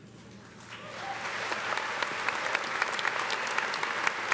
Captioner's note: audience applauding